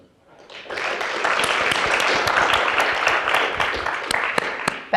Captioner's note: audience applause